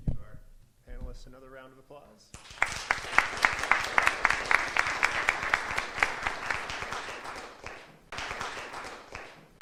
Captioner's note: applause